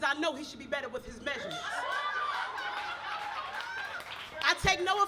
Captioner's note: audience cheers